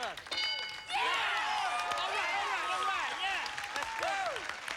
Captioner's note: cheers and applause